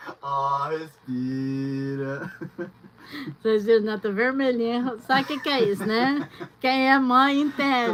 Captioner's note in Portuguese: risadas